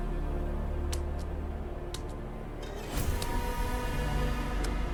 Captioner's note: footsteps thudding